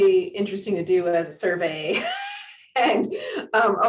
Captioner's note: giggles